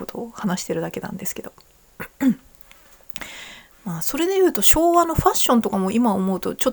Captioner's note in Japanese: 咳払い